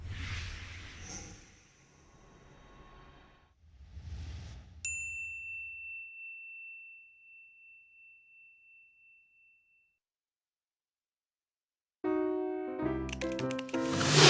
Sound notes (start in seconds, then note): 5.0 bell ringing brightly; 13.0 upbeat music; 14.0 loud whooshing